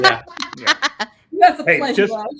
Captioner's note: laughing